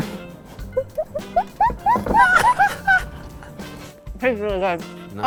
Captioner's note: upbeat music; laughing